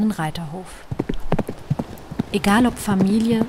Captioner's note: galloping hooves